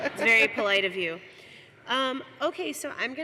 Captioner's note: laughter